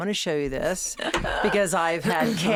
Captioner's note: Kate laughing